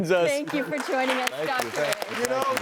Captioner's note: audience claps